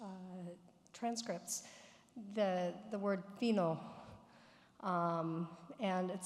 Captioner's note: speaks foreign language